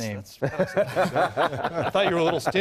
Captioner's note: laughter